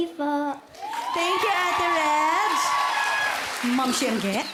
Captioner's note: audience cheering